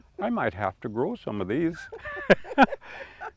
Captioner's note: laugh